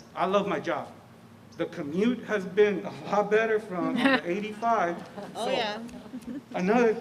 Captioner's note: laughter